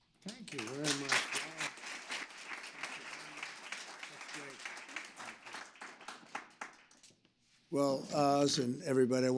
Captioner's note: applause